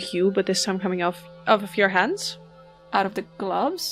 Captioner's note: echoing chime